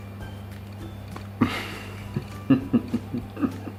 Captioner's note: laughter